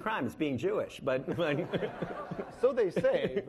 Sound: laughing

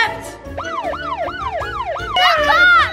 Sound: police sirens

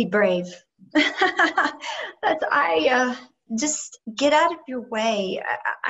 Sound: laughter

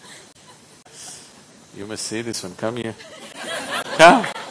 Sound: laughter

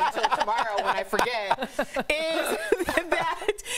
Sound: laughter

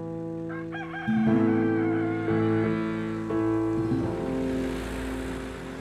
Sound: sad piano music; farm animal noises

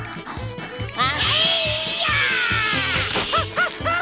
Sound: screaming

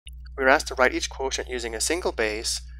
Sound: voiceover

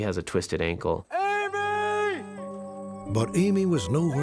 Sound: yelling

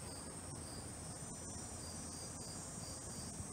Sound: none

